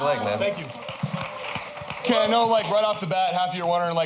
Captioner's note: cheers and applause